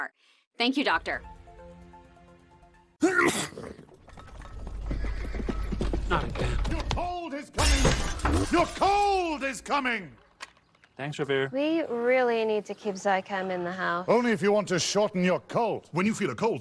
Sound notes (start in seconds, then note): 3.0 sneeze; 5.6 hooves approaching